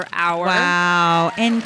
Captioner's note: audience clapping